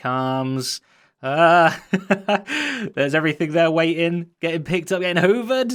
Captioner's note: laughing